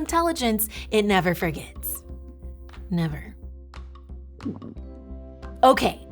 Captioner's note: gulps